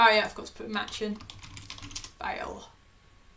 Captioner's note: keyboard clicking